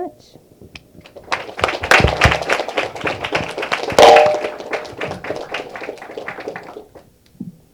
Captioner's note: applause